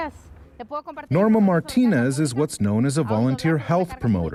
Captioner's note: speaking in spanish